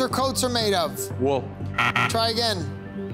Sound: buzzer beeping

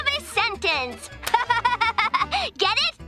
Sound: laughing

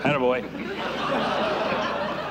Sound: laughter

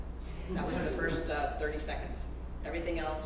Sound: laugh

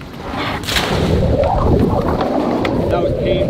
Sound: water gurgling

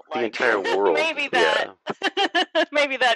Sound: laughter

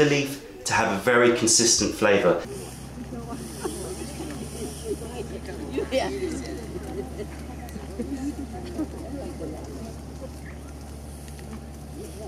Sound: chatter

